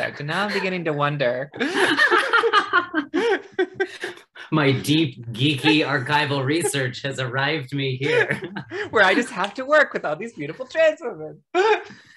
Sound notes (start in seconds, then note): 1.3 all laughing